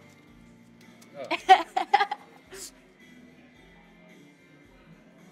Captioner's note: Keely laughs